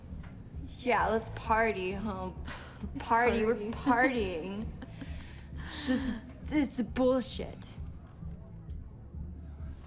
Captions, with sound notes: Yeah, let's party. - (laughs) "Party." - (slurring) We're partying. It's bullshit!